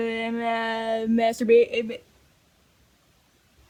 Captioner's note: stammers